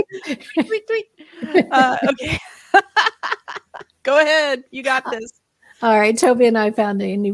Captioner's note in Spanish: La risa